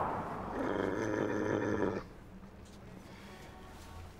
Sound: dog growling

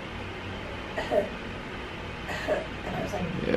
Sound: gentle coughing

